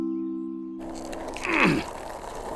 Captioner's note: effort grunts